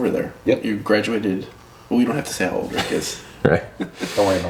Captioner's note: laughs